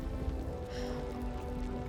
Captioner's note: exhales